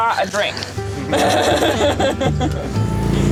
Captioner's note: laughing